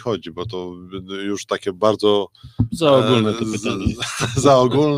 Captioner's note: laughter